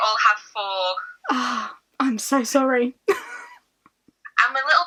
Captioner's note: laughs